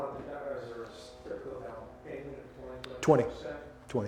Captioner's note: man speaking off mic